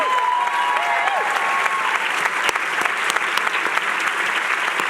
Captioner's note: cheers